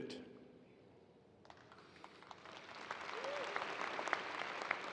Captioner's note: audience applauding